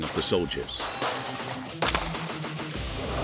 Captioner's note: gun firing; upbeat music